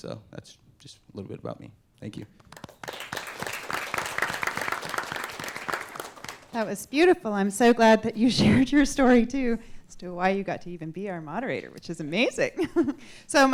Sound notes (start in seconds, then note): 2.3 applause